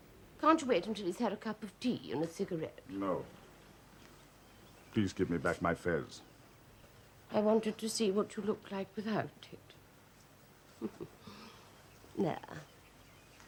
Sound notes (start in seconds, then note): 7.2 sobbing